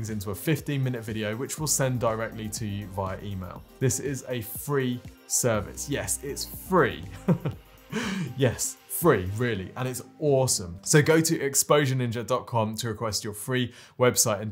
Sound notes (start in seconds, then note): 7.2 laughs